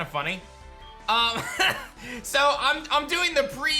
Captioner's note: chuckles